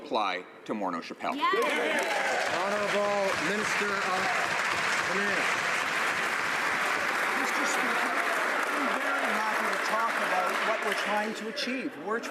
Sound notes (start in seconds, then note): 5.5 some Applause